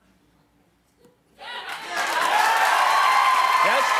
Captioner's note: applause